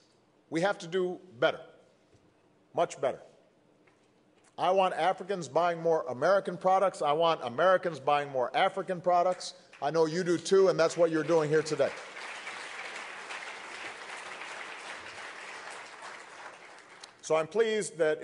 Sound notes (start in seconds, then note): 14.2 applause